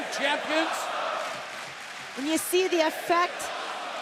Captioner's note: crowd cheering